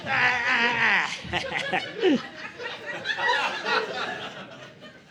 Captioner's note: audience laughing